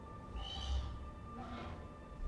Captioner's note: Jellyfish chirps